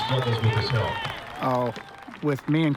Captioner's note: applause, cheers